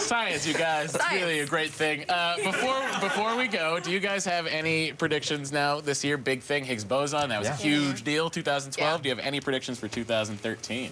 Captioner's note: laughter